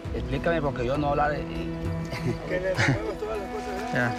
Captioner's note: Spanish language